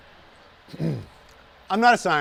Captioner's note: clears throat